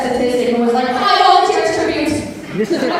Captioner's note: audience laughter